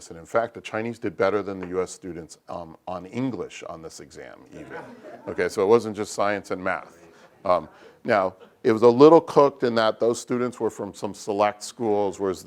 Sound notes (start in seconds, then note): 4.5 laugh